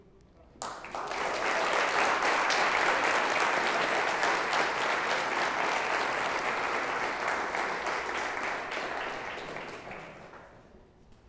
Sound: applause

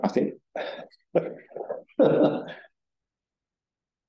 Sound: audience member chuckling

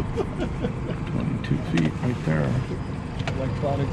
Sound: chuckling

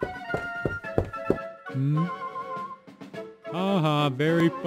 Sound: feet clatter against floor

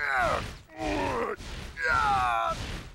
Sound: groaning

